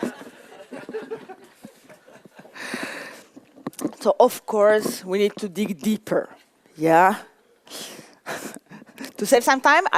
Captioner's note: laugher